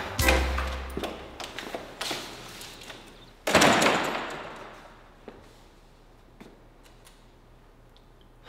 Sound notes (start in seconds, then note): 3.5 door thudding